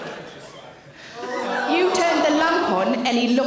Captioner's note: audience gasp